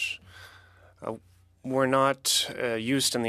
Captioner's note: speaking French